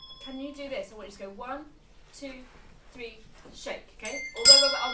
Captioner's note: bell sounds